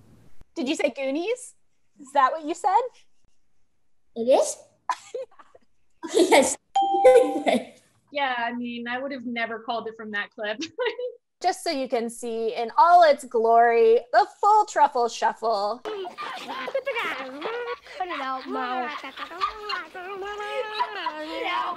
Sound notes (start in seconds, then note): 4.9 laughs; 15.8 silly sounds; 19.0 silly sounds continue